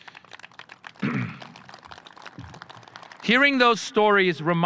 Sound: audience applauding

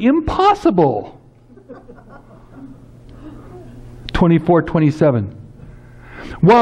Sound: laughs

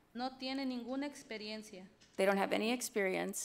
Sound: speaks foreign language

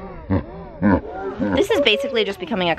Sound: laughing

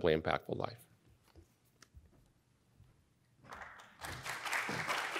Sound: audience applauds

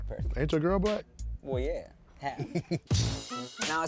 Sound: chuckles

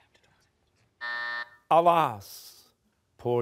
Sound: buzzer

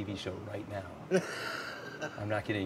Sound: laughs

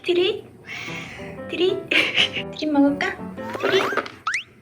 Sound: giggle

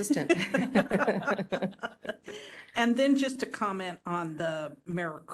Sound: laughing

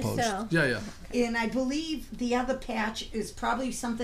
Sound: voiceover

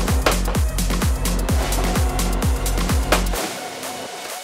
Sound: machine slaps

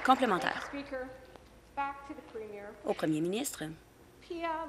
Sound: applause

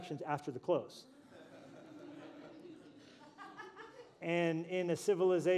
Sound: laughter

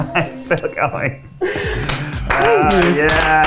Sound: bell rings; applauding

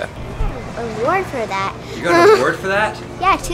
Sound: laughs

